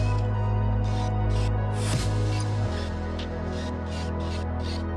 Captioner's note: drill whirring; drill whirring